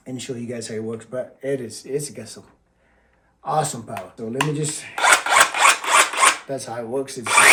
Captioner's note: motor Sound